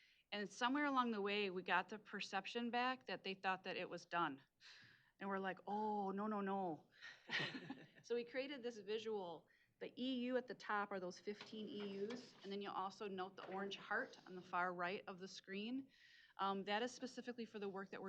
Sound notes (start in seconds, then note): 7.2 chuckling